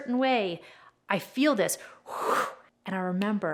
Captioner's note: mimics air sucking